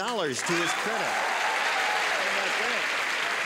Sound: cheering and applause

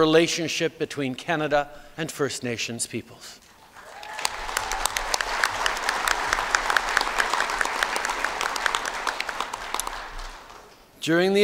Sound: applause

